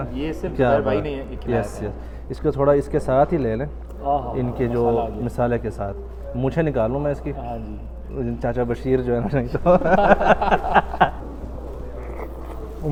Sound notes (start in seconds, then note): 9.3 laughing